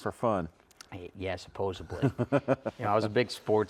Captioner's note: laughing